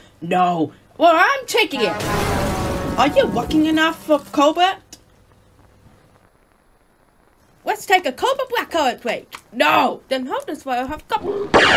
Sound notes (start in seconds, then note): 1.7 train sounds; 11.5 grenade boom